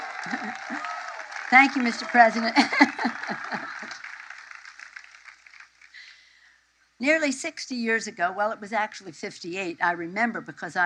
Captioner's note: cheers and applause